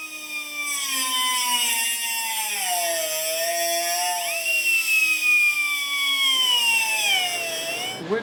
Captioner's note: high-pitched whining